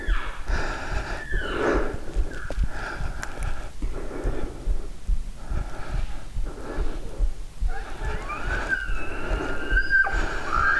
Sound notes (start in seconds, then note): 0.0 caller cow calling; 7.7 elk bugling